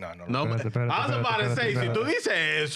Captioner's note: speaking In Foreign Language